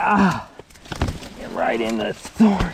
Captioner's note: groaning